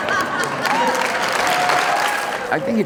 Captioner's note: crowd cheering